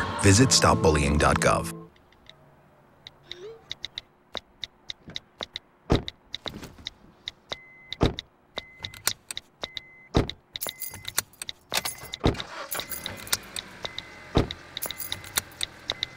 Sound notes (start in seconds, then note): 2.0 tapping; 7.2 beeping; 12.0 engine turning